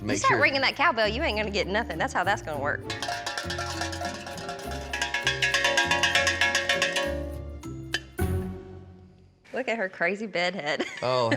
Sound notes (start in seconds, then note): 3.0 bell ringing